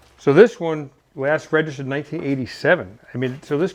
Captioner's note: none